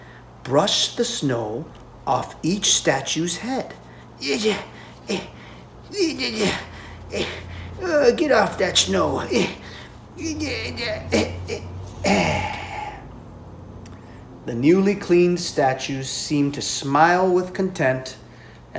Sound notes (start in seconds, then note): 0.3 grunting with effort; 5.8 grunting sounds of effort